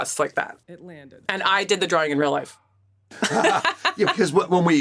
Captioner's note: laughs